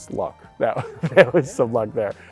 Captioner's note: laughs